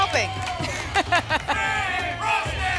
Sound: laughs; audience chanting " "

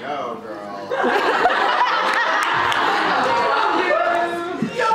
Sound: audience laughter

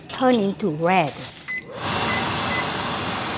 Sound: fan whooshes; beeps

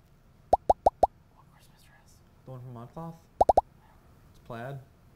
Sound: boop boop boop boop; whispers; boop boop boop

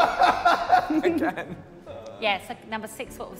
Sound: JJ laughing

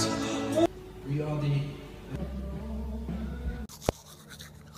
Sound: man talking; teeth brushing; loud rock music

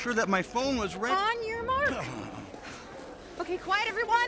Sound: Cary groans

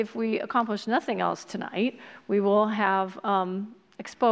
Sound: none

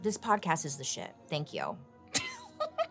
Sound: laughs

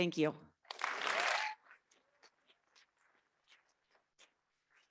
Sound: audience clapping

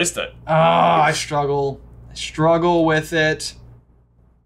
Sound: grunts

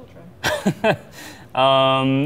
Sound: laughing

